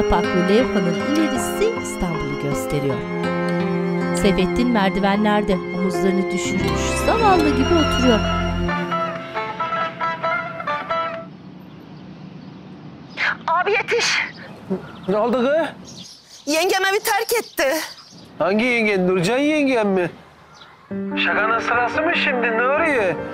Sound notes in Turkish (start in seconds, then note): 0.1 Müzik devam ediyor; 8.3 Telefon zili sesi